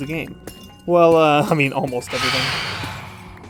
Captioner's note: phantom screech